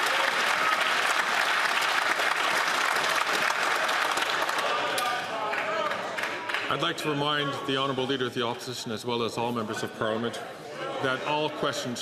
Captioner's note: some Applause